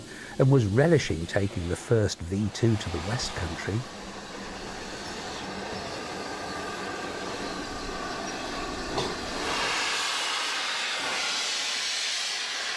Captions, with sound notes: and was relishing taking the first V two to the West country. [train rolling in]